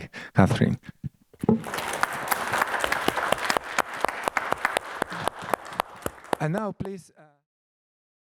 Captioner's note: applause